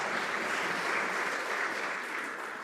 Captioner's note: some Applause